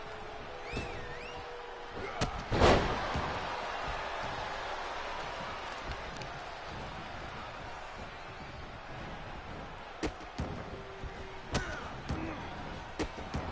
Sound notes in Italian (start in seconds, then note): 2.7 Applauso